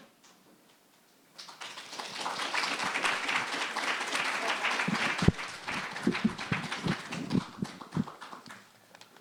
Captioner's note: applause